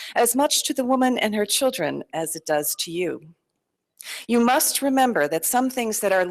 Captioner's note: none